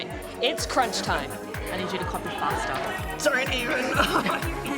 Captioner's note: laughs